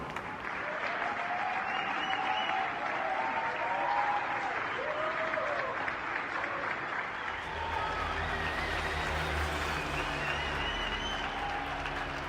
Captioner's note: applause; cheers and Applause